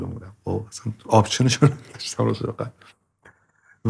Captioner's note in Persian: خنده